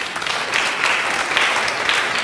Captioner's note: applause